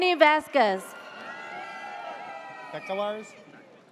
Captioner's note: audience cheers